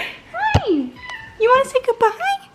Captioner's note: cat meowing